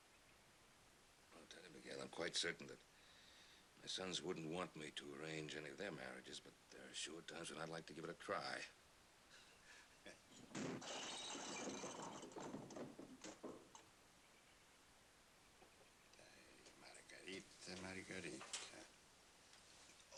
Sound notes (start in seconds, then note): 10.5 objects breaking